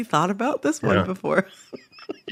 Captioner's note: laughter